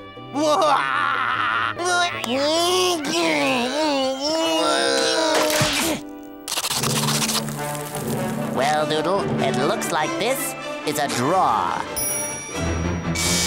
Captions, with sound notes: [laughing] [grunting] Well, Doodle, it looks like this is a draw.